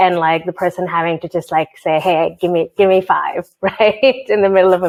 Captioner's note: chuckles